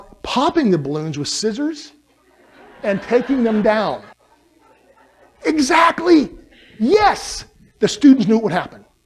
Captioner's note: laughter